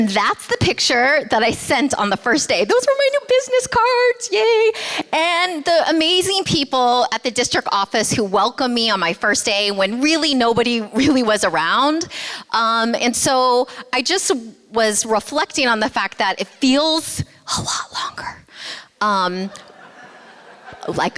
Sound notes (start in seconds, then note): 17.1 whispering; 19.4 laughter